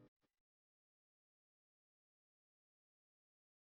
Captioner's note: long intentional silence